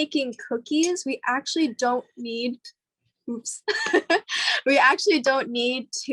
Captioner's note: laughs